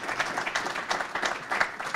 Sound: applause

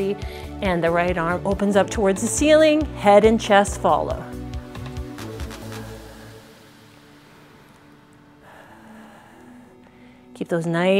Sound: deep breathes

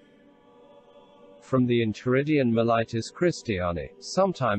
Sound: voice reads

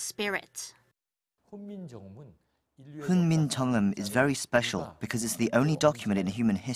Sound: Korean

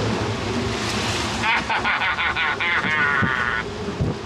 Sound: cackles

